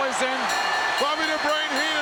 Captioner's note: bell ringing